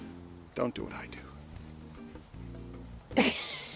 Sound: chuckles

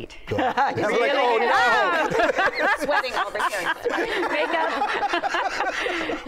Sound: all laughing and exclaiming

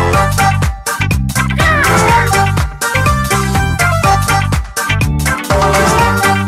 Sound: red squawks

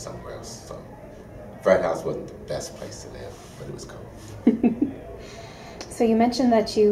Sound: interviewer laughs

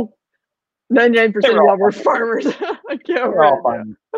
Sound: laughing

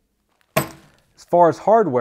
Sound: metal clanks

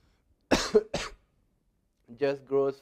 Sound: cough

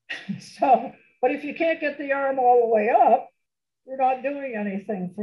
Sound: laughs

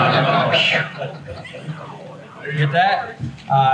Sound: everyone laughs

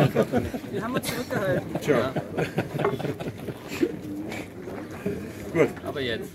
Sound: laughter

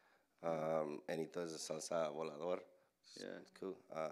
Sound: Spanish language

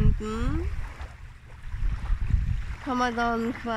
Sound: wave noise

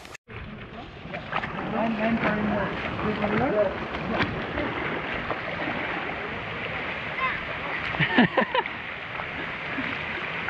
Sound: sound of water and people paddling; laughs

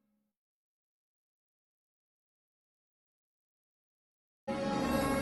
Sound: silence

